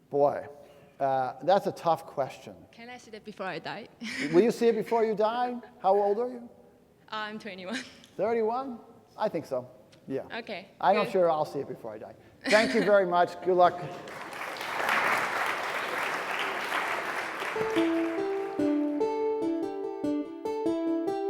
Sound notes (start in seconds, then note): 13.7 audience clapping; 17.6 soft string music